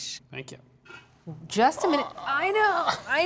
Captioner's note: groaning